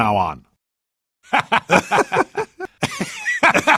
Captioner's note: laughter